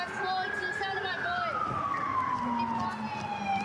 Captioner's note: sirens